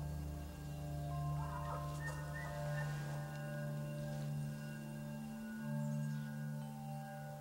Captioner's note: birds chirping; elk distantly bugling